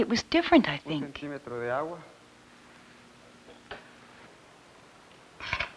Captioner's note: speaking Spanish